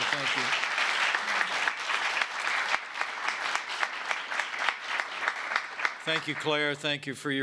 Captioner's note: applause